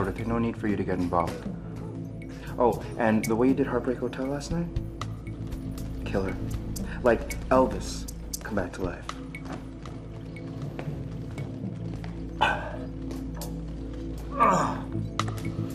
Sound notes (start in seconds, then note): 14.2 groaning